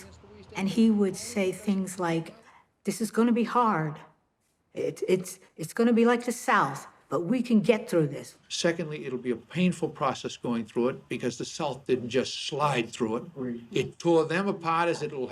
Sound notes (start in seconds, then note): 13.7 man murmurs